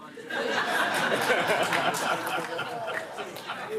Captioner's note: laughter